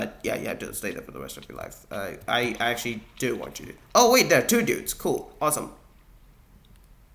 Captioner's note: Sculk sensor falls from above